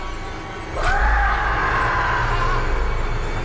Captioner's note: dramatic music; Jordyn screaming; dramatic music